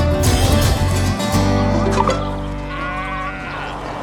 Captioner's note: notification; birds; bleating